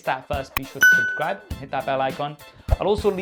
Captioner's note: bell ringing